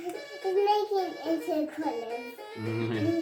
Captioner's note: baby talk